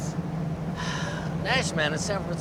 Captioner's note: sighs